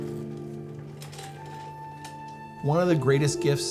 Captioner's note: chair rattling